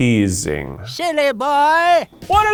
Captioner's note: cartoon Voice